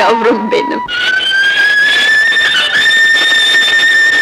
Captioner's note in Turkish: Trenin uzun hareket düdüğü